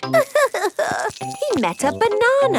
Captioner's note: crying